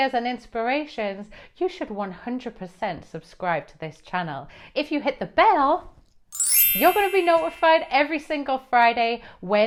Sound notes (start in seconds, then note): 6.3 bell ringing